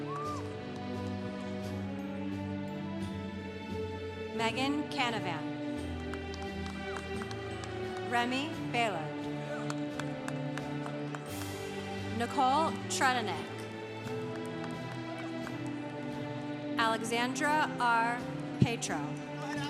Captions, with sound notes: - Meghan Canavan. (congregation applauding) Remy Bailard. (congregation applauding) Nicole Tredinnick. Alexandra R. Petro.